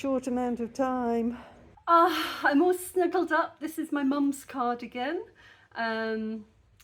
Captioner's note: contented sigh